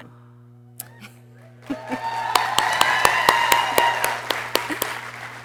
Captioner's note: people cheering